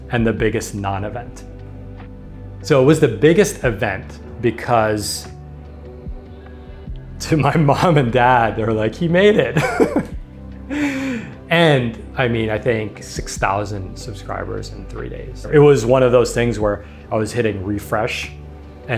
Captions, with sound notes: and the biggest non-event. So it was the biggest event because to my mom and dad, they were like, he made it. (chuckles) And I mean, I think 6,000 subscribers in three days, it was one of those things where I was hitting refresh